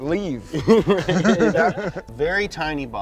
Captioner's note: both laughing